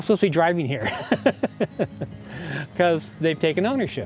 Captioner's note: laughter